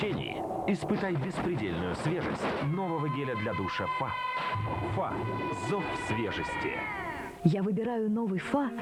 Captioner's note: scream